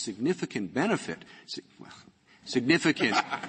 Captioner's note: laughter